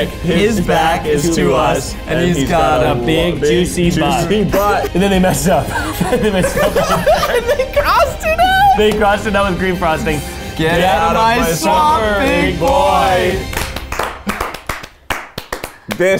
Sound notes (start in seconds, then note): 5.9 all laughing; 8.1 laughing; 13.5 all clapping